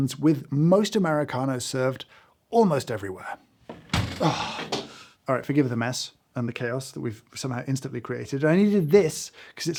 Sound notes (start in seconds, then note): 3.7 coffee machine thuds; 4.2 grunts